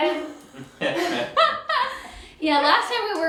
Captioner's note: everyone laughs